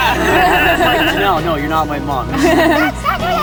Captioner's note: all laughing